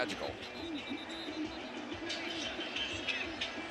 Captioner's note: whistle